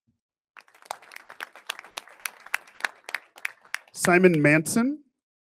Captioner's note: audience applauding